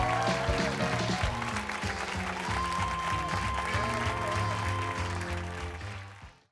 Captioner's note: applause